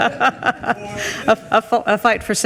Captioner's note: group laughs